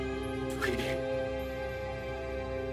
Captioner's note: bit-crushed